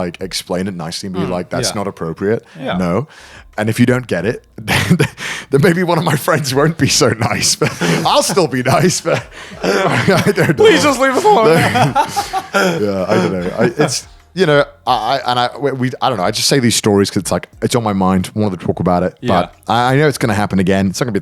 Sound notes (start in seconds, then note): 7.3 chuckles; 12.0 laughing